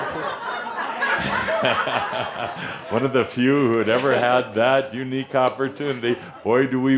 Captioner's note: laughter